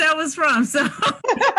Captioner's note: laughs